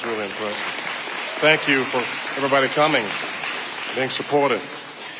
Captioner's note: audience applauding